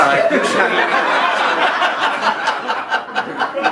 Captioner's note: laughing